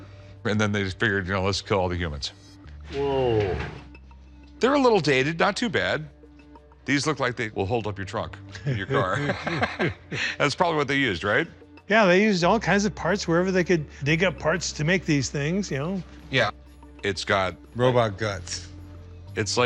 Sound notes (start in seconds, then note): 8.5 laughs